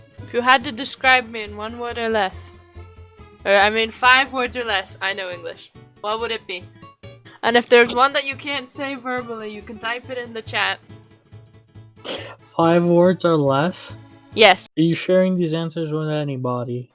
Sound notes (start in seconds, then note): 12.0 sips the air